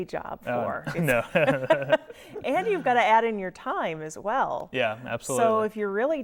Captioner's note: laughing